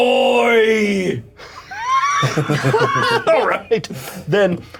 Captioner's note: laughter